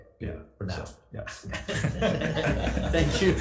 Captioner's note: assembly laughs